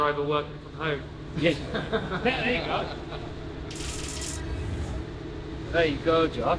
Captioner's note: laugh